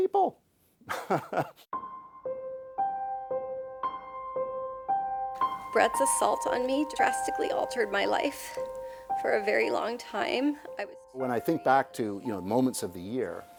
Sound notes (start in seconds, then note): 0.9 laughs